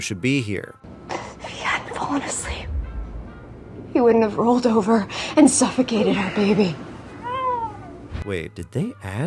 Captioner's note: baby cry